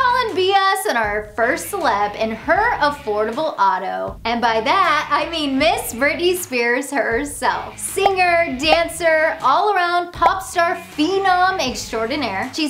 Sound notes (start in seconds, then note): 7.2 graphics popping; 10.1 graphics pop